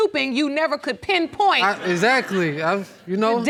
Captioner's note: audience laughs